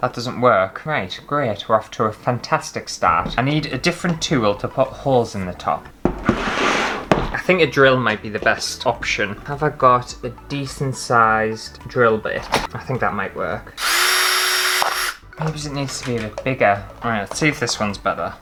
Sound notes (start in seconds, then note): 13.8 drill Sounds